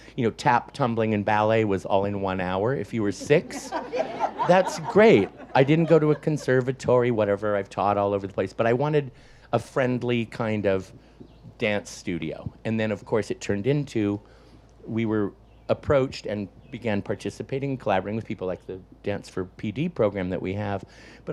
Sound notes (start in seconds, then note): 3.0 audience laughs